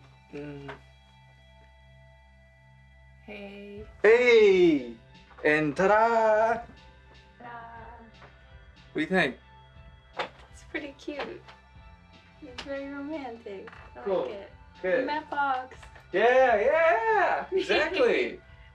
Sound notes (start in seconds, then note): 10.4 clang; 18.1 she laughs